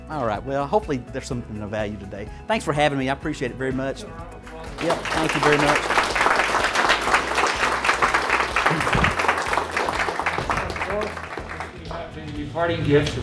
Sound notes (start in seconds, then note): 6.1 audience clapping